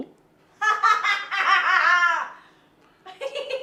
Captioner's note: loudly fake-laughs, maniacally; starts giggling